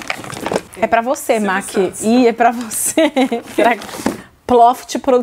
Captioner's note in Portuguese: risos